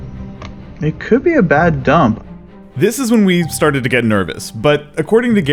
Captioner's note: voiceover